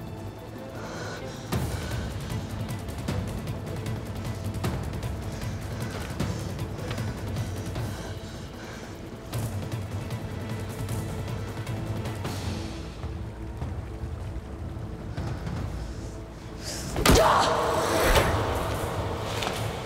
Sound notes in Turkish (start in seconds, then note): 11.7 Müzik - Gerilim; 18.0 Tekme sesi